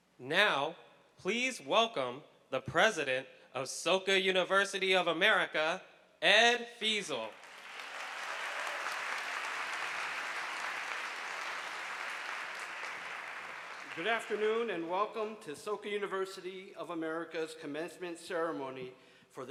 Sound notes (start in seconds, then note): 7.3 audience clapping